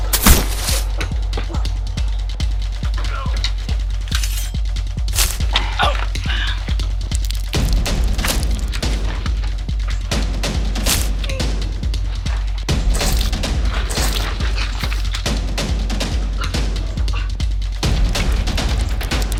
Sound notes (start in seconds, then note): 0.1 gunshot; 15.3 suspenseful music